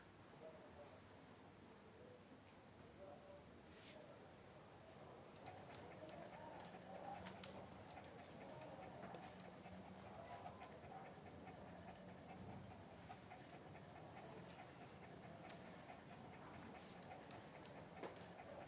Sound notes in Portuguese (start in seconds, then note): 5.2 respiração de cachorro